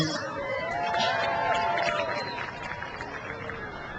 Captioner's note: crowd cheers